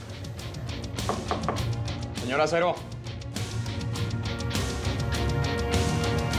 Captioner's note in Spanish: toques en la puerta